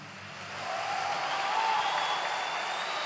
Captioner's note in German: Applaus, Jubel